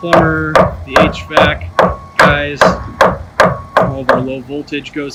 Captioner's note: wood thudding